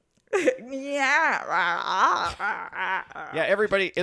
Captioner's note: laughs